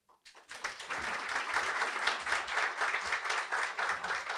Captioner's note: applause